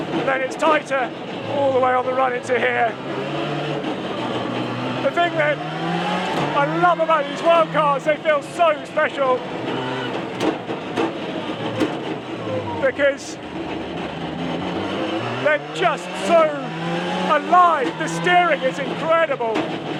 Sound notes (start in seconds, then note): 10.4 gears clunking; 10.4 transmission whining